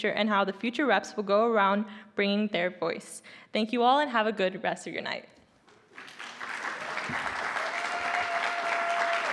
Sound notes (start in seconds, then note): 5.9 audience applauding